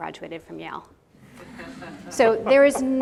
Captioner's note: audience laughing